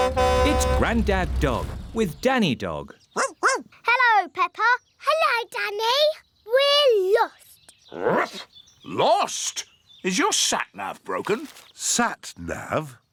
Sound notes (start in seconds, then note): 0.0 horn honks; 3.1 barking; 7.3 barks